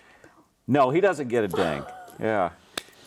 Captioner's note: laughs